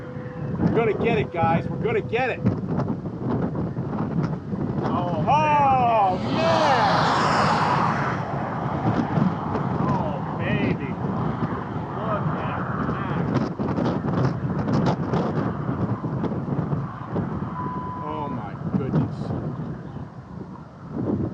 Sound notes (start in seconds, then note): 17.4 1:29 PM CDT beep